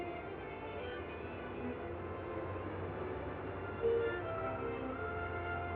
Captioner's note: upbeat music; engines humming